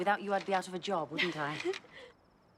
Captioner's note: laughs